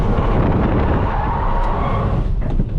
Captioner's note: tires giving up all hope